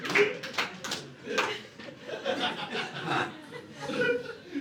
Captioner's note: audience laughing